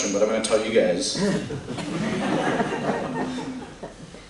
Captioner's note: laughter